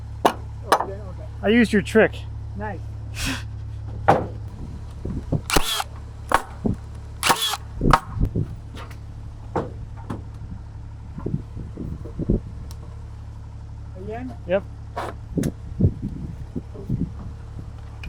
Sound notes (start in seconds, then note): 7.2 tool buzzes